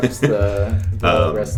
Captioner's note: laughs